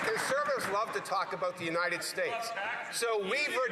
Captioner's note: some Applause